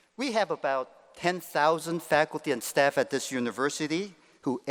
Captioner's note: none